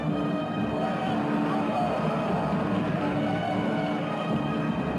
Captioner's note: men shouting